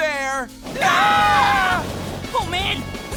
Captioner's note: screaming